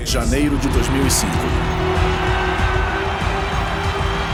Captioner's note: cheering